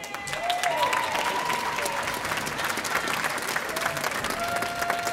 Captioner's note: audience applauding